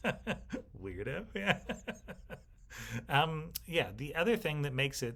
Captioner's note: laughs